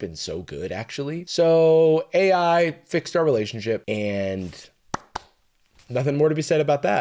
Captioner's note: claps